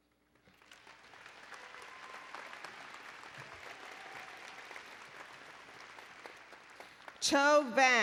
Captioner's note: applause and Cheering